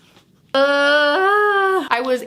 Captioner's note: groans